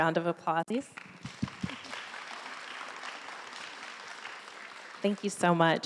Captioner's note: audience clapping